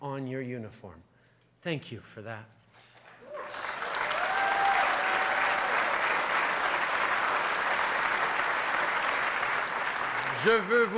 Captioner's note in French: Acclamations et applaudissements